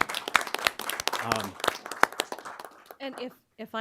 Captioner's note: applause